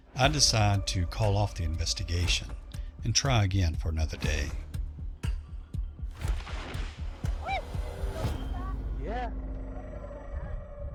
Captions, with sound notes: I decide to call off the investigation and try again for another day. [drum beat] [drum beat] [whistling] Yeah.